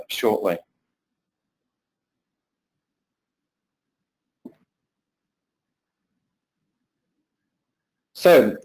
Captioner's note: pause